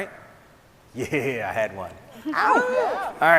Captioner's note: laughs